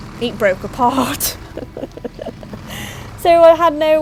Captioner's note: laughing; laughs